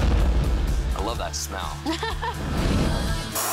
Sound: laughs

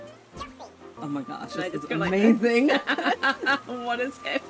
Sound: both laugh

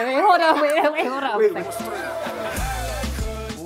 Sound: both laughing

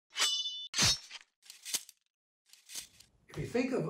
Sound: swords slashing

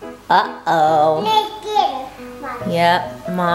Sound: mumbles

